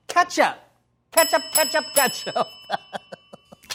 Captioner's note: bell ringing; laughs